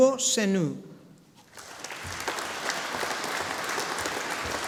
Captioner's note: audience applauding